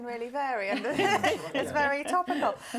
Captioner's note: laughter